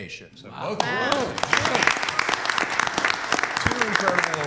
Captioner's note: applause